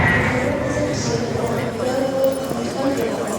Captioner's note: crowd murmuring